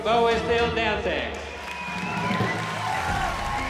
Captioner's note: cheering, applause